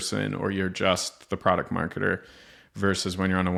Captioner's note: inhales